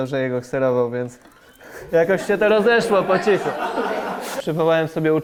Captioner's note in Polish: śmiech publiczności